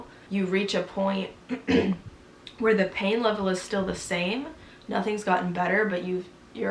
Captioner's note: clears throat